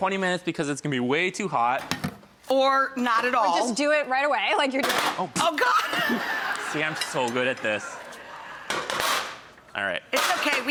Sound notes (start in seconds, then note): 5.6 laughs